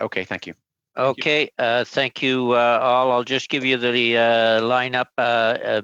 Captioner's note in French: voix de l'interprète